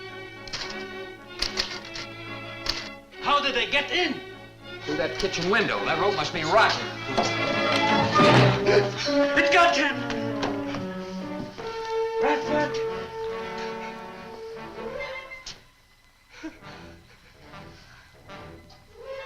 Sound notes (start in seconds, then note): 1.4 typewriter clacks; 8.6 gasps; 16.4 Marlowe gasps